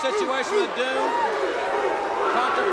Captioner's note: Rick barks; audience barks